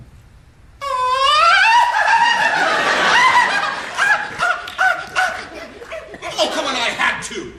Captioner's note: laughs flamboyantly